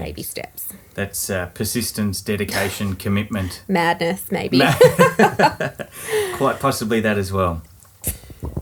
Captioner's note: both laughing